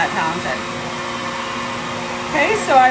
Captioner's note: hair dryer whirs continues